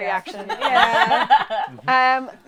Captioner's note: laughter